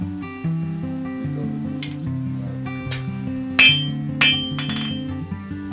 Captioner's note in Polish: Kowal uderza w kosę na skraju kowadła